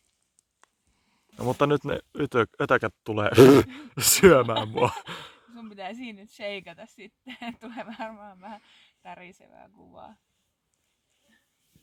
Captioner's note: pfffft